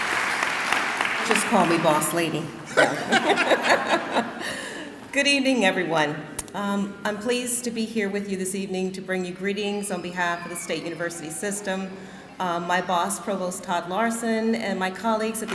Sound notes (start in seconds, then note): 2.6 laughing